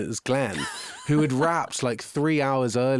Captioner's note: interviewer laughing